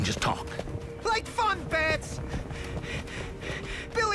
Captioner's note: panting